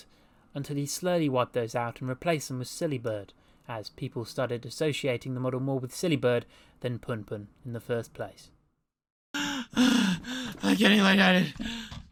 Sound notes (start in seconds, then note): 9.3 heavy breathing